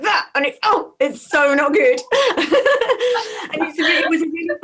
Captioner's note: laughs